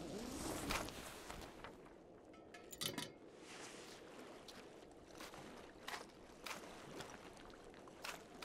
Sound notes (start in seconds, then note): 4.8 footsteps